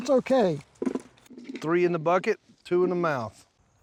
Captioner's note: soft thuds